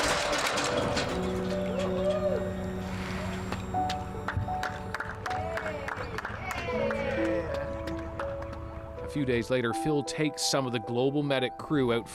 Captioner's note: applause